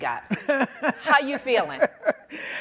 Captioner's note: laughs